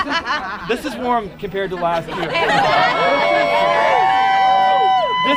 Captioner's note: cheers